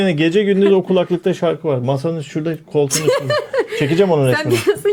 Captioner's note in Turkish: kahkaha